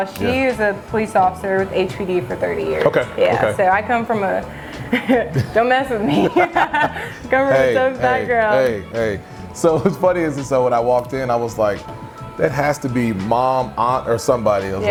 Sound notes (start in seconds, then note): 6.0 chuckles softly; 6.5 laughing